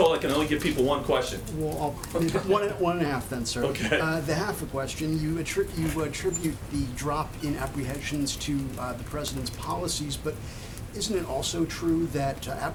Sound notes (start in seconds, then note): 3.6 laughs